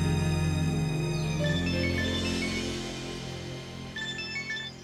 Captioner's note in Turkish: Telefon çalıyor